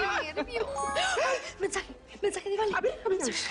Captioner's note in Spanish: Alerta de mensaje